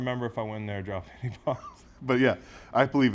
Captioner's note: laugh